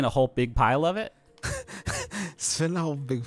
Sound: laughing

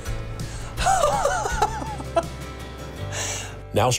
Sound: laughing

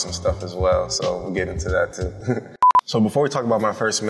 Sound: chuckles

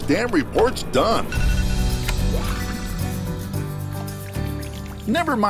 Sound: device beeping

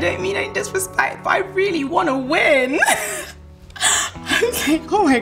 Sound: laughs

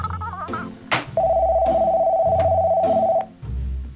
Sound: phone rings

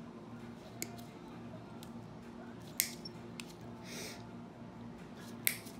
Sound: nail clippers clicking

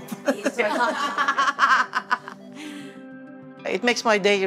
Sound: laughs

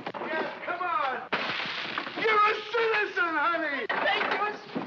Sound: crashing sound

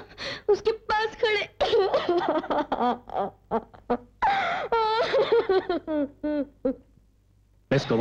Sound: sobbing

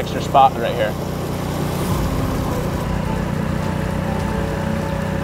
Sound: boat motor roaring

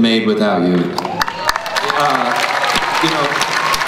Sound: crowd applauds

